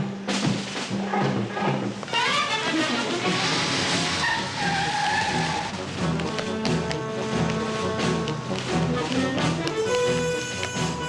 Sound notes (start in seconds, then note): 3.8 tires screeching